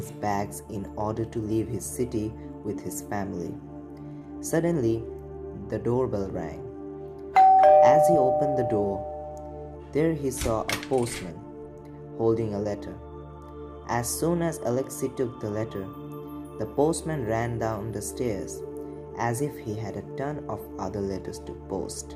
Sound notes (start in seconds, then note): 7.4 bell sound; 10.4 door sound